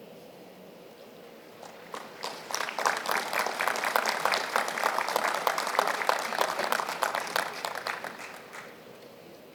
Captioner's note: applause